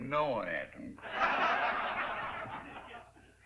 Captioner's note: laughter